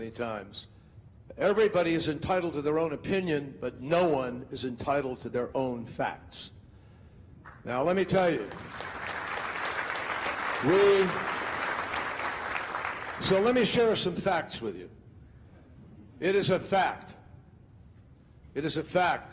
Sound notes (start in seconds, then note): 8.4 crowd applauding